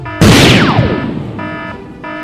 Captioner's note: boom; zap